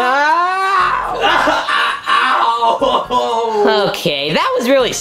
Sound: screaming; Junior groaning

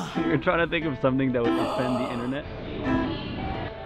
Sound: gasps

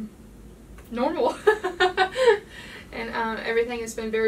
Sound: the lady laughing

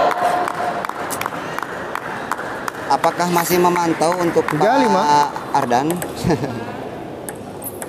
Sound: applause

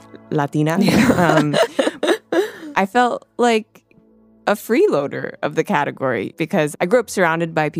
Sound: laughs

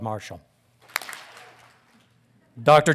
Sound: audience claps

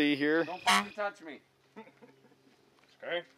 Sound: honk

